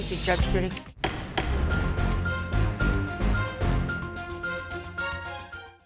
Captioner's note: dynamic music; gavel banging